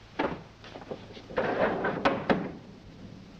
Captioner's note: door closes